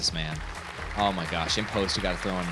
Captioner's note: audience applauds